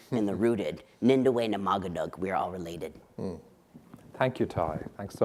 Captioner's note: speaking in foreign language